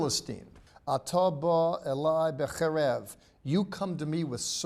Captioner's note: speaking in Hebrew